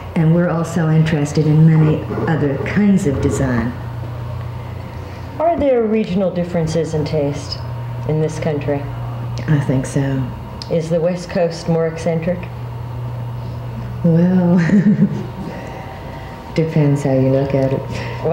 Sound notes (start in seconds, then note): 14.6 chuckles